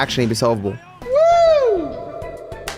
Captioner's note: voice echoes